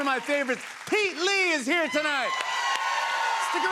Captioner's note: cheers and applause